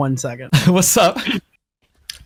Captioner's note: laughs